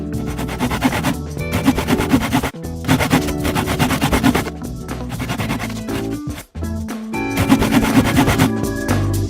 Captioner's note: swish; sound of sawing